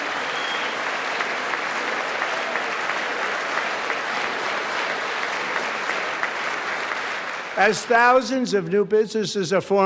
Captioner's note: applause